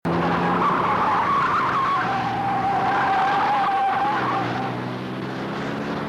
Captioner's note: car engine racing, tires squealing